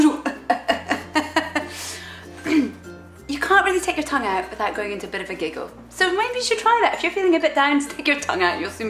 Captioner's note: clears throat